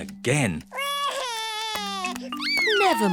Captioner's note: sobs